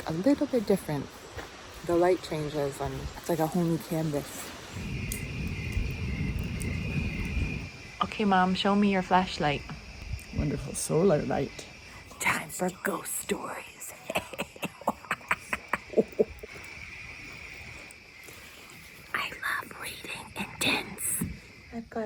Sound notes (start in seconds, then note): 4.8 fire crackling; 14.0 evil laughter